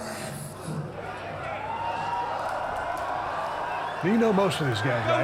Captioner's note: crowd cheering